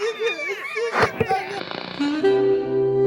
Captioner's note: TV clicks, static